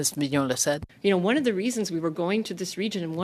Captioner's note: speaking French